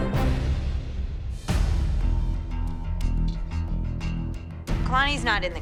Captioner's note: none